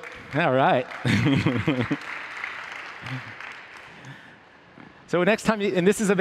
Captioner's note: applause